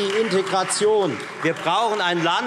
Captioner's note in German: Beifall Freie Demokraten